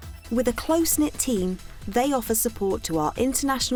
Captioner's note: voiceover